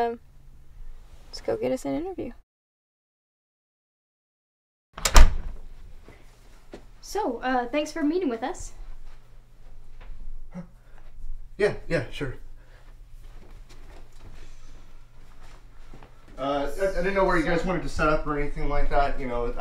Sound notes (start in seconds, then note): 5.0 door closes